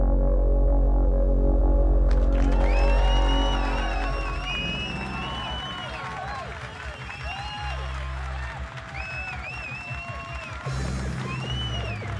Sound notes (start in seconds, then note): 2.8 crowd cheers; 8.0 ominous music